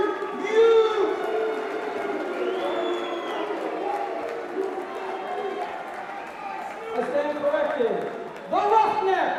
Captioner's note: crowd cheering